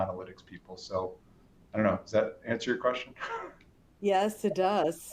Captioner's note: chuckles